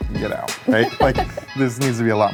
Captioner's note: laughs